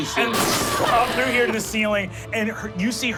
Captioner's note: crash